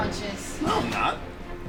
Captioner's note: gasps